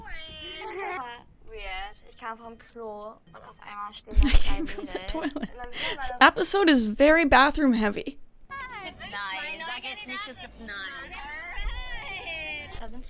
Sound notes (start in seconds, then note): 4.2 laughs